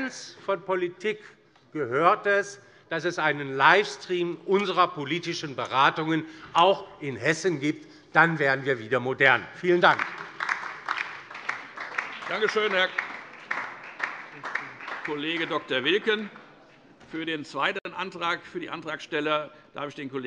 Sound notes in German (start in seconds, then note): 9.6 Beifall DIE LINKE und SPD